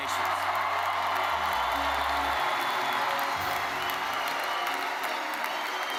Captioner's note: attendees cheering and applauding; rousing music